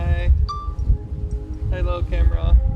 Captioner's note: electronic chiming